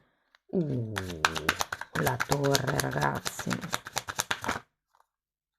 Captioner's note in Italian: Applauso